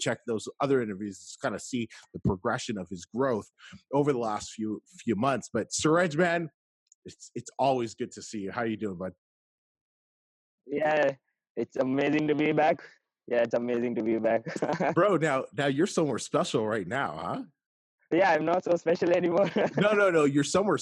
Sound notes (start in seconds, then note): 13.8 laughing; 19.3 laughing